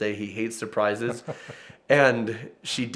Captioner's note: laughs